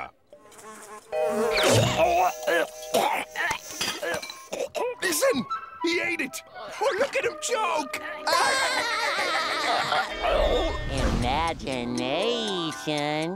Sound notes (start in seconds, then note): 0.4 buzzing; 2.9 choking; 8.0 laughing